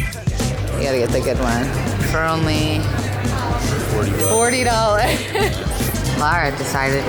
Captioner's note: laughs